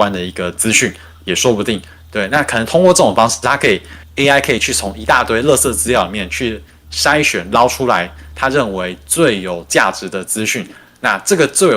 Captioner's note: non-english speech